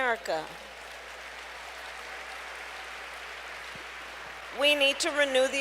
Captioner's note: applause